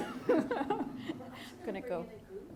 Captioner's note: laughing